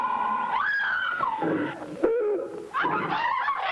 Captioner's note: woman screaming; people screaming